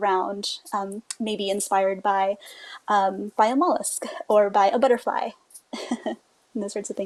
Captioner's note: giggles